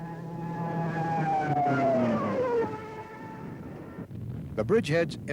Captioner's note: propellors continues buzzing